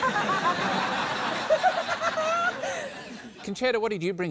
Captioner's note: laughter